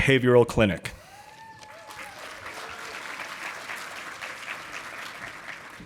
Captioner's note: audience applauding